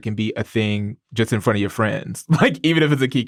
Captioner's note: laughs